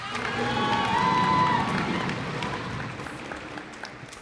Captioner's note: cheers and applause